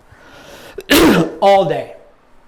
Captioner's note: coughs